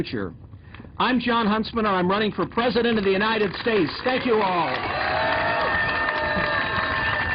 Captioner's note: applause